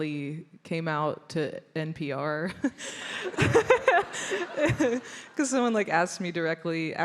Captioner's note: laughs